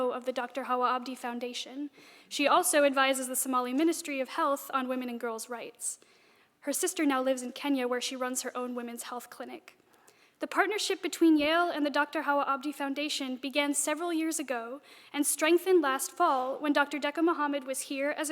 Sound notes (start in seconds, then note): none